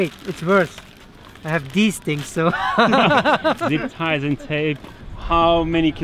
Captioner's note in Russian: смеётся